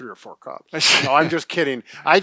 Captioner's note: laughs